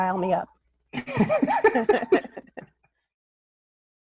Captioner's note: laughs